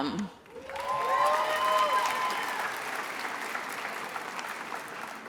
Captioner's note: attendees applauding